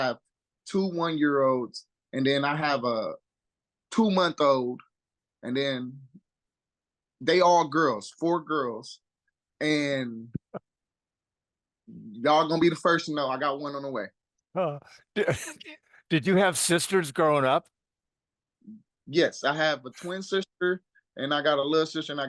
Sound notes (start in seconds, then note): 15.1 chuckle